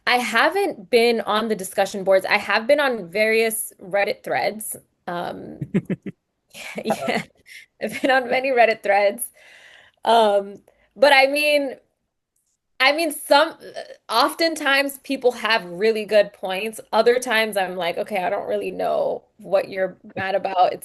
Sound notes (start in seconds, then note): 5.6 laughs; 5.6 chuckles